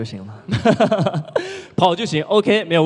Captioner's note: laugh